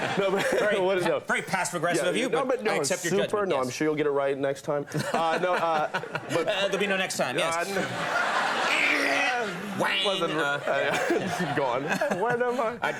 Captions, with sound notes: Great, very passive aggressive of you but I accept your judgment. No, but no, I'm sure you'll get it right next time. There'll be no next time. (audience laughing) Gone, when am I?